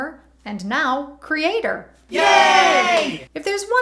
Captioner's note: cheering